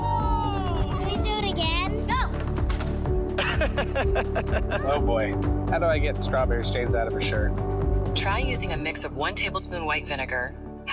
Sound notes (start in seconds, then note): 3.3 laughing